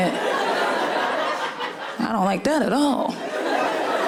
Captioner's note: laughing